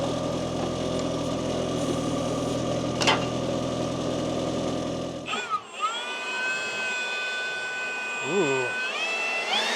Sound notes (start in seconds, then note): 0.0 engine rumbling; 5.2 leaf blower whirring